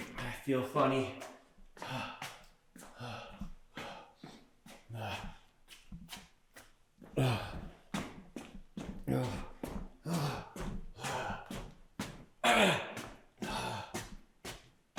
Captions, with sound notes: I feel funny. (panting) (Jacob panting)